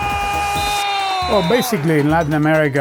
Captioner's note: whistle blowing